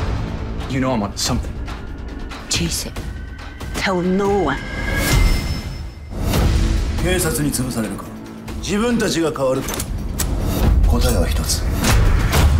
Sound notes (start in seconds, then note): 7.1 speaking in japanese